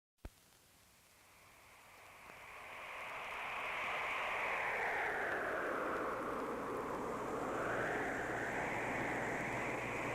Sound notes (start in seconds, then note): 2.7 wind blowing